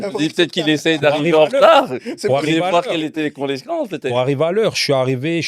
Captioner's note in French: rires